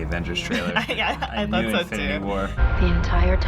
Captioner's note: chuckles